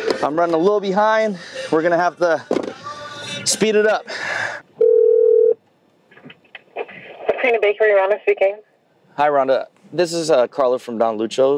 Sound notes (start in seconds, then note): 4.8 phone ringing; 7.8 voice clipped